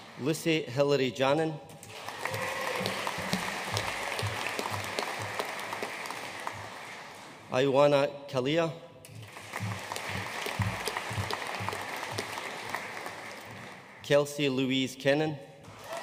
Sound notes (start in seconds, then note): 1.8 audience applauding; 9.1 audience applauding; 15.7 audience cheering and applauding